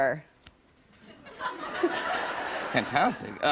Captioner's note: laughter